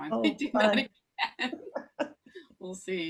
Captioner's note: laughter drowns out speaker